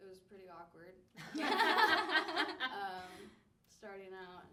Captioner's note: all laugh